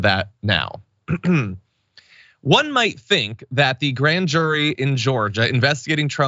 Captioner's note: cough